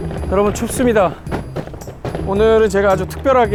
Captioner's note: thud!